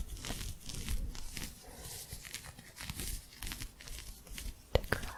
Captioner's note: more intense scratching